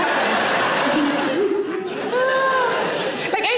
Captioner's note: audience laughing